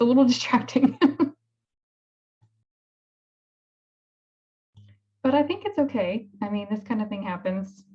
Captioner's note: laughter